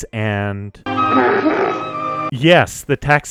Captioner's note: itchy growling